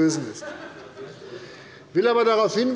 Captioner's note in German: Heiterkeit